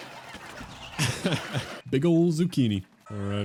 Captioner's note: laughs